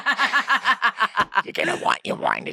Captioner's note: laughs